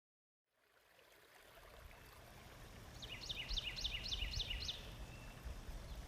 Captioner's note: birds chirping; water bubbling